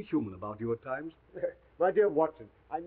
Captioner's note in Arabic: يضحك